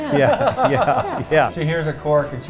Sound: laughs

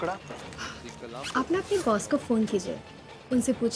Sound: Tanya gasps

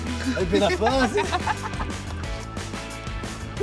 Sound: laughs

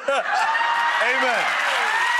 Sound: audience applauding

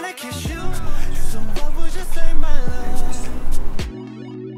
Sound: whispering

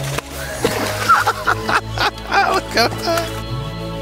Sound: laughter

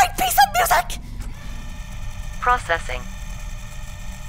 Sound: heavy CPU fans

